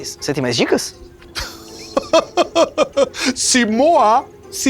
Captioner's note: Chico laughs